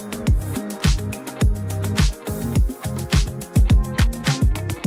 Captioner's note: none